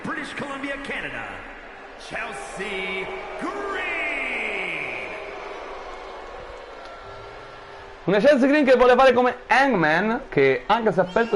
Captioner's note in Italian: Applauso